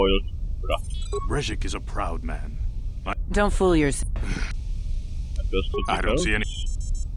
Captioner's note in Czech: povzdych